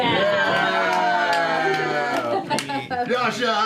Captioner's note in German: Jubel